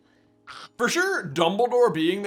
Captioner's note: coughs and hacks